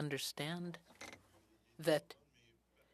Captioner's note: speaking FRENCH